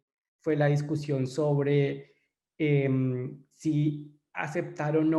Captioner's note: in foreign language